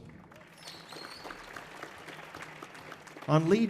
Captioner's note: audience applauding